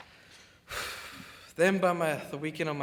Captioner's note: sighs